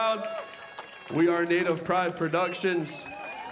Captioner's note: cheering and applause